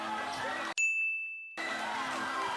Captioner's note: cheering; dinging; dance music